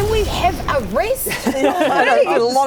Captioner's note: laughter